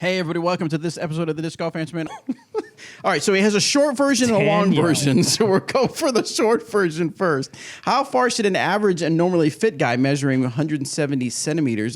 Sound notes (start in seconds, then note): 2.4 laughs